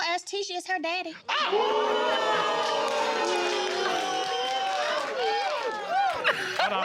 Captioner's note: all exclaiming; laughing